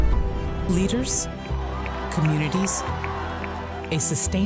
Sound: applause

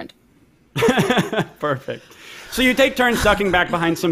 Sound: chuckles

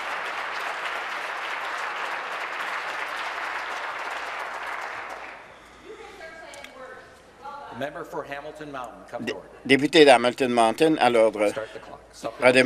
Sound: applause

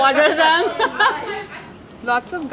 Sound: all laugh

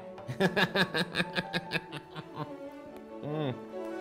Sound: laughs

